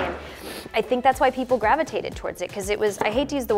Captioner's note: sniffs